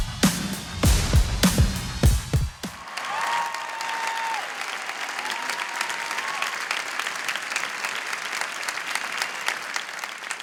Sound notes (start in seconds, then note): 2.6 applause